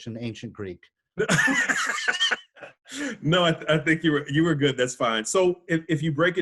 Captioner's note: laughing